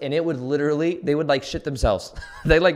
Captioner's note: laughs